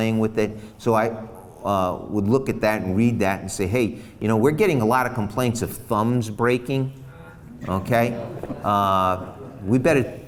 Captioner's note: crowd murmers